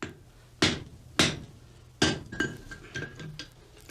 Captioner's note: hammering